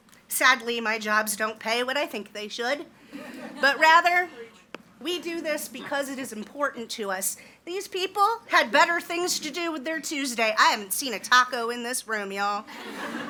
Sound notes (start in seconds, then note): 3.1 audience laughs; 12.7 audience laughs